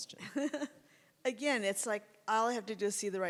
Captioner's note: anna laughs